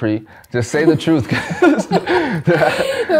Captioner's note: laughs